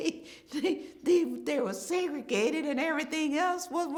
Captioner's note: chuckles